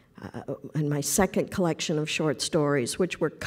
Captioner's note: none